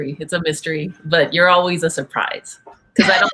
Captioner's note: laughs